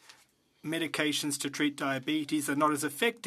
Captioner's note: speaking French